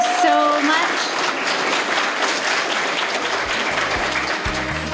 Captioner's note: applause; closing music